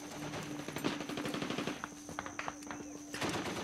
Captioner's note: gunfire